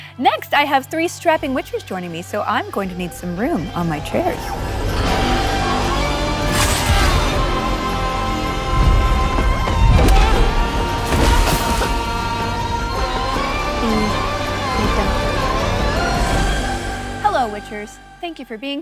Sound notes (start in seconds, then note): 6.4 blade clangs; 11.7 coughs